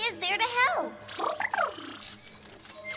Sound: trilling

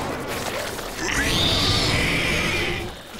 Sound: screeching

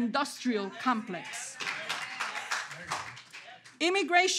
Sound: audience clapping

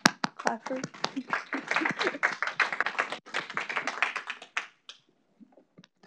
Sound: audience applauding

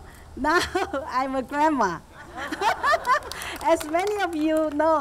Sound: all laughing

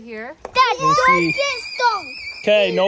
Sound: shrieking

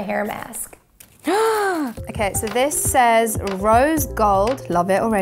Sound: gasps

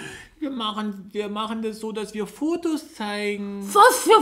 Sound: another cute childish voice imitation of Moppi

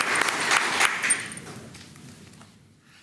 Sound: applause

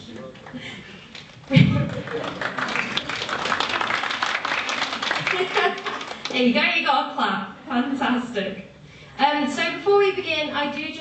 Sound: applause

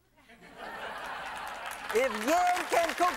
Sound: laughter; clapping

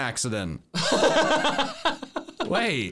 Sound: laughing

